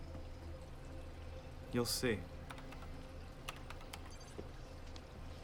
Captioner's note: keyboard clacking